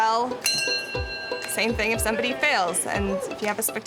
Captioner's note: bell dings